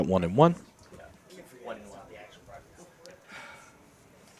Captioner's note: indistinct chatter